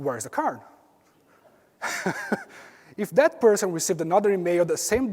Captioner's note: laugh